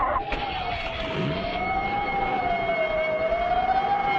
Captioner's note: engine rumbling; intense music; siren alarming